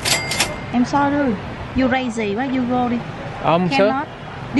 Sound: speaking Vietnamese

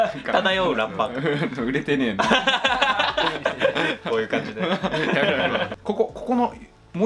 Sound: laughs

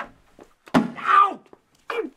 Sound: clunk

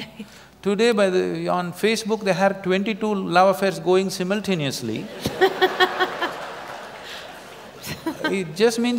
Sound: laughter

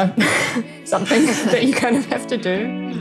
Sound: laughter

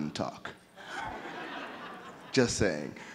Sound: audience laughing

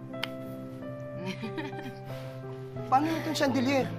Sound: Claire laughs

